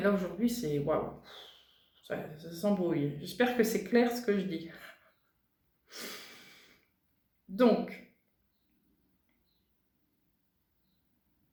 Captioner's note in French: soupir